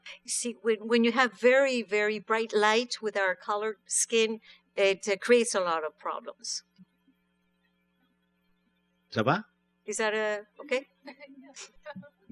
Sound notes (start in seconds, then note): 9.1 speaking french